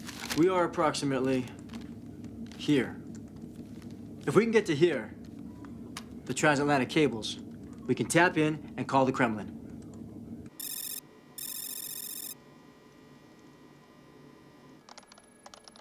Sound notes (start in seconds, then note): 10.6 alarm